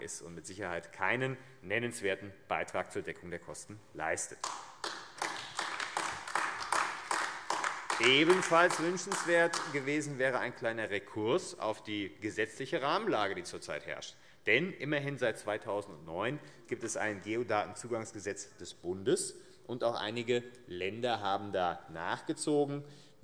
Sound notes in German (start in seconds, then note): 4.4 Beifall AfD